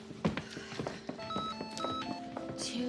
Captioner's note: cell phone chimes